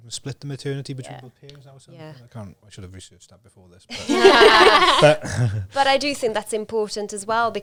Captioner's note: laughs